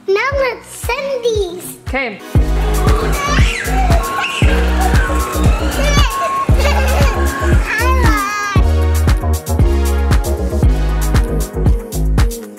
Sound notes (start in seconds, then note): 2.4 children shrieking; 9.3 rhythmic rock music